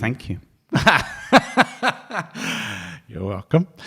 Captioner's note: laughing